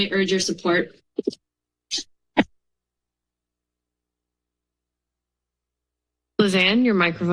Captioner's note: silence